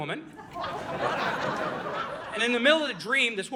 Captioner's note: audience laughing